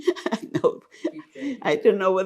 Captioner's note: laughing